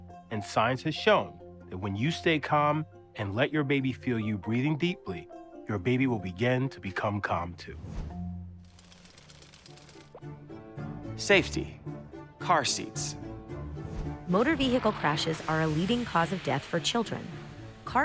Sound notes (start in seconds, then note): 8.6 gears whirring; 8.8 intense music